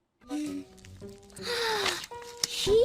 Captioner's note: lola gasps